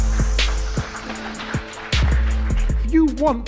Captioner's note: clapping